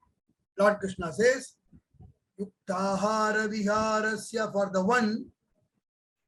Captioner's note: speaks in foreign language